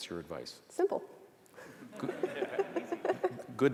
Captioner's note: audience laughter